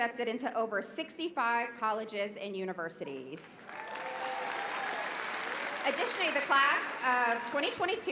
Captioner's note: applause